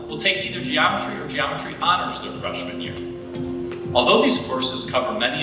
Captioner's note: none